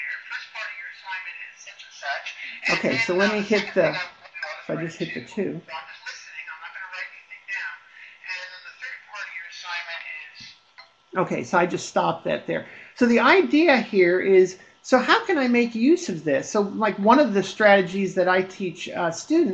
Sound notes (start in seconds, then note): 2.5 voiceover; 10.9 voiceover